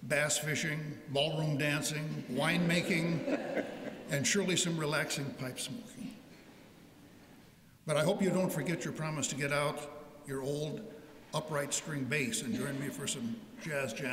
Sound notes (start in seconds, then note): 2.6 laughter